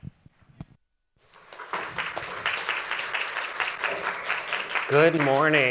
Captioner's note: audience applauding